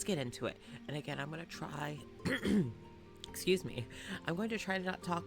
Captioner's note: clears throat